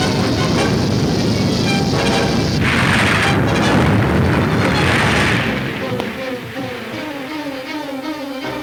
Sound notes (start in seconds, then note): 1.0 crashing